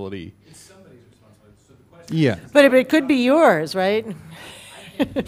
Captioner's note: laugh